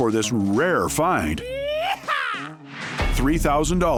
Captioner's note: cowboy yell